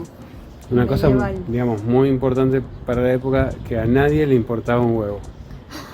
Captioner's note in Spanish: chiste y risas